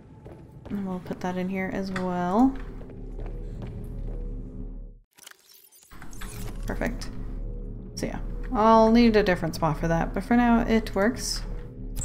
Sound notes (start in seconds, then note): none